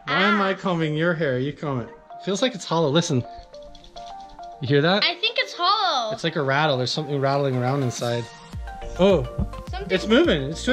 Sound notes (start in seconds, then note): 3.5 brush rattling